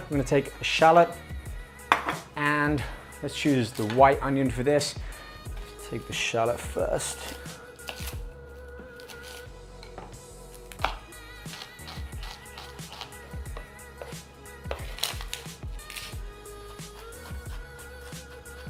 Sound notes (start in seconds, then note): 11.4 knife chopping; 14.7 laid-back electronic music